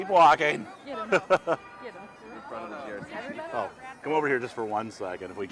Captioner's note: laughing